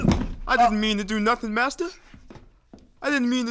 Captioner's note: choking, body thuds